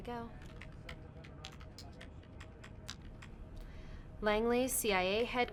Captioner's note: keys clacking